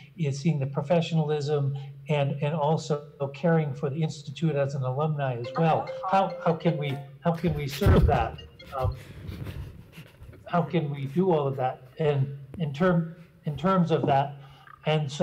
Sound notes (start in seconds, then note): 7.9 phone ringing and chuckling